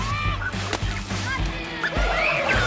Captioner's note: water sploshes